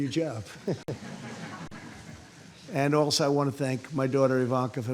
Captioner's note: laughter